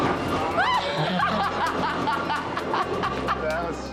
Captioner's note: laughing